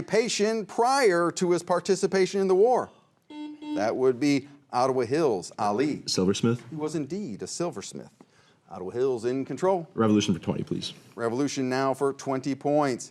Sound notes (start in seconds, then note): 3.3 buzzer rings